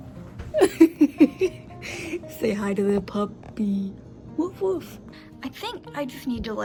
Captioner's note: laughing